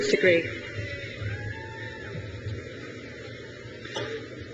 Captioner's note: crowd cheers